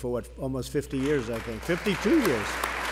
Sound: applause

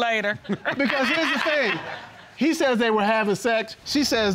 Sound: laughing

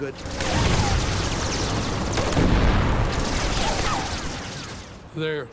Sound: rapid gunfire exploding; cannon shots exploding

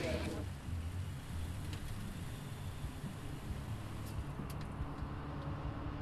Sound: engine rumbling to a stop; traffic humming

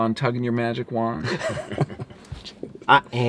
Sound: laughter

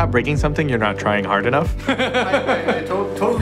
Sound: laughter

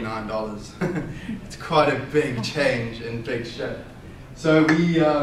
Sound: laughs

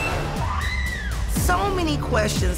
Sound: screams

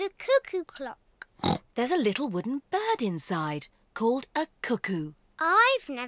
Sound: oinks

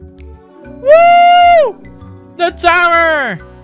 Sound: cheering

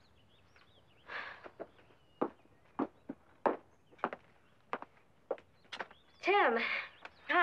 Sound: footsteps thumping; sighs

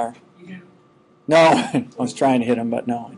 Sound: chuckling

